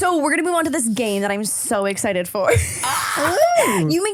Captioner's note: laughs